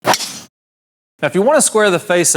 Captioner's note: icon smashing